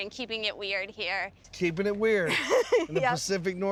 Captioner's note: laughing